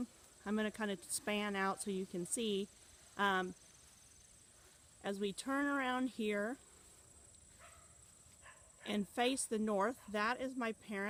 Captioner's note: dog barking in background